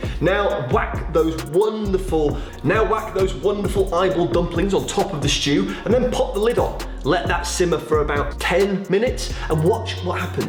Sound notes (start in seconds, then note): none